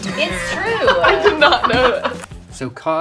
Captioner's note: laughing